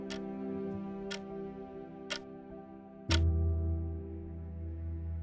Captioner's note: clock ticking